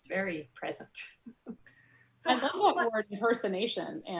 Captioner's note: soft giggles; overlapping chatter